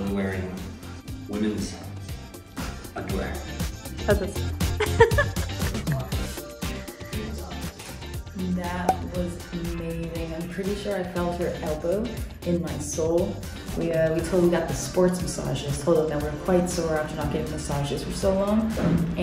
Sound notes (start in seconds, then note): 4.7 laughs; 5.8 bright upbeat music